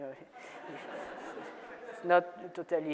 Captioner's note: audience laughs